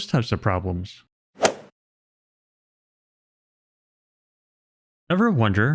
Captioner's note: golf ball hit sound effect